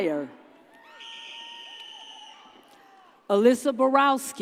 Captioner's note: audience cheers